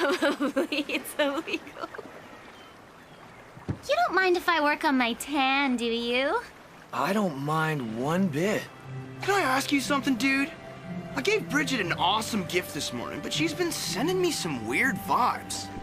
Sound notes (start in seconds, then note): 0.0 continues giggling, Unclear